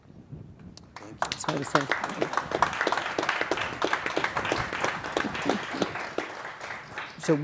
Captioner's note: audience applauding